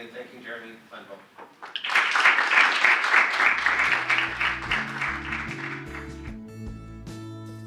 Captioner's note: audience applause